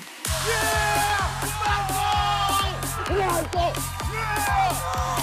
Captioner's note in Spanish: ambos gritan